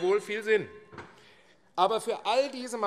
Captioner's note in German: Unruhe - Glockenzeichen